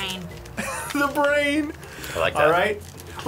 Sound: chuckles

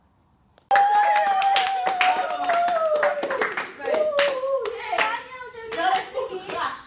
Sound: celebrations / Applause

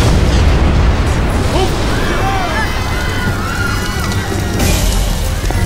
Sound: explosion; screams

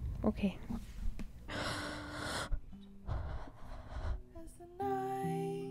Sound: gay hyperventilating; singing

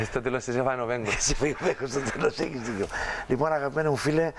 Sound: laughing

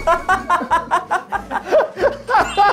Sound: hahahaha

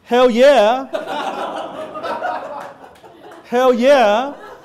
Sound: audience laughing

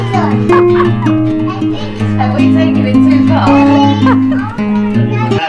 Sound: laughs

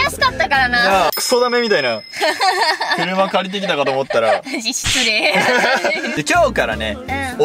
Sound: laughs

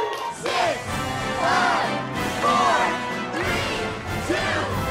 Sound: crowd

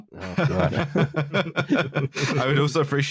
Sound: laughter

